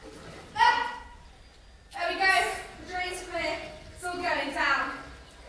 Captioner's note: water flows